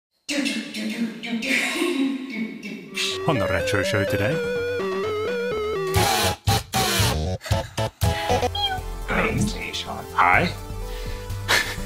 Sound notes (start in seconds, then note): 2.7 video game music; 5.9 electronic music; 8.4 mews; 11.4 chuckles